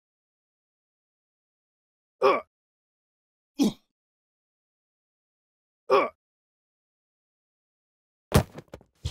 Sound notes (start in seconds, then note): 2.6 groaning in pain